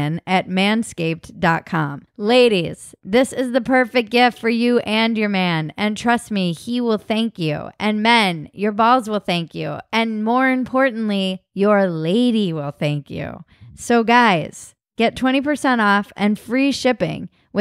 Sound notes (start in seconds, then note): none